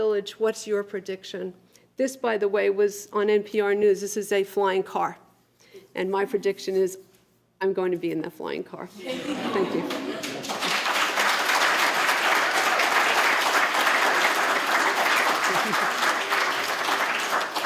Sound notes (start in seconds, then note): 9.0 laughter; 9.4 applause